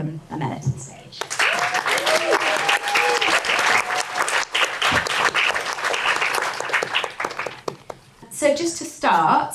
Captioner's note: audience applause and cheering